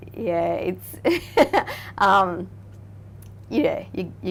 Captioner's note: laughing